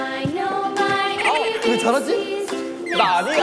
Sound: hahahahaha

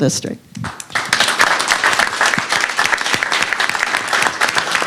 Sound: applause

